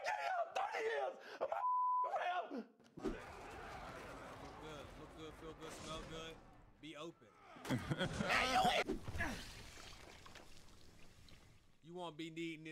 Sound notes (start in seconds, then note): 0.1 hysterical screaming and beeping; 3.9 yelling; 8.0 yelling and clattering; 10.5 grunting